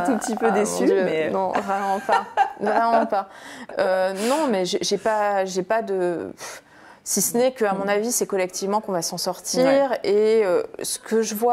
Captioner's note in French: rires